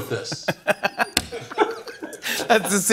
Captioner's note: laughter